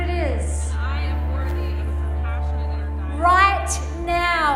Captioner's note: overlapping chatter